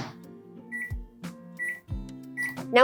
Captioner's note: microwave beeping